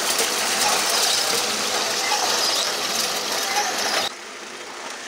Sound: water running

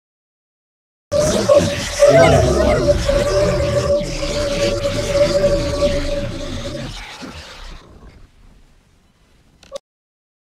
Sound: sound of flying monster

